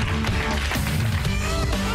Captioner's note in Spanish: aplausos